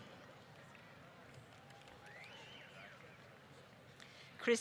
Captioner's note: applause